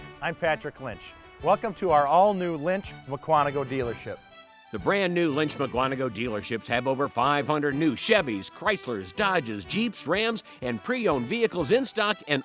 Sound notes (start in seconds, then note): none